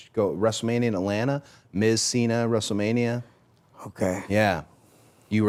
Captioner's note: none